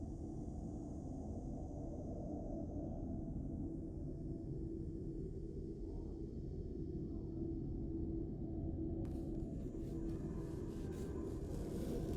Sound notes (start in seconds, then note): none